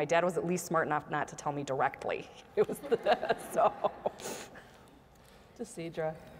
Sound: laugh

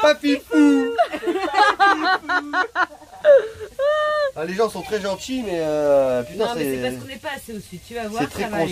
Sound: laughs

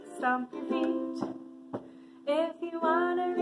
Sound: stomping

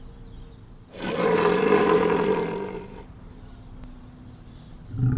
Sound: creature growling

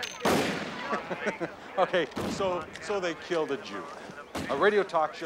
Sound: chuckling

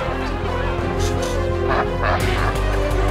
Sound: laughing

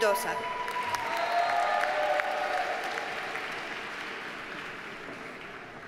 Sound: audience cheers and applauds

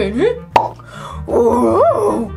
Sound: pop

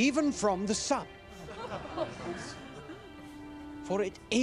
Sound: crowd laughs

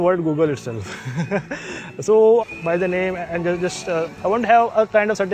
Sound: laughs

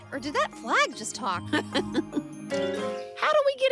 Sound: Ms. Tab chuckles

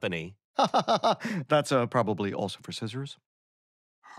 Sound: chuckles

